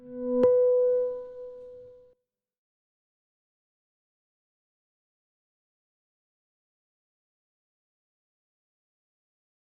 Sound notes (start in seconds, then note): 0.6 ding